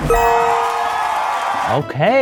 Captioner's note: audience cheering